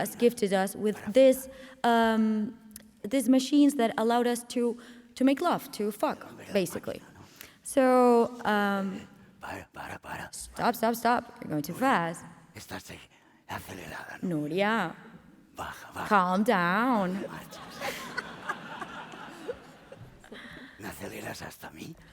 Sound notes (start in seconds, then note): 8.7 speaking spanish; 13.4 speaking spanish; 17.2 laughter